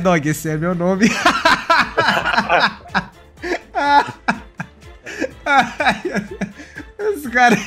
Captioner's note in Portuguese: risos